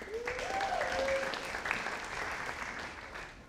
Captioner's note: audience applauding